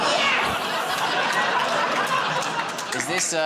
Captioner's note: laughter